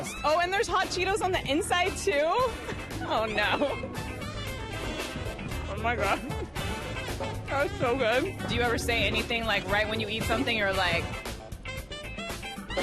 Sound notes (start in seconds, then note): 2.5 chuckles